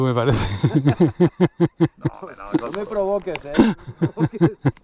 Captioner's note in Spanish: risas